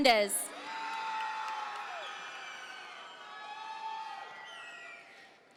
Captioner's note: audience members cheer